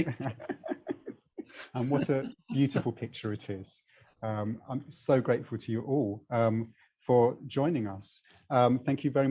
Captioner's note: laughs